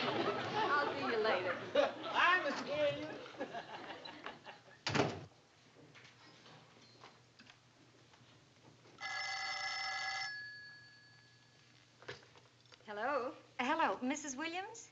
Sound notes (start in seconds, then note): 9.0 phone ringing